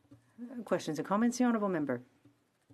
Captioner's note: speaking French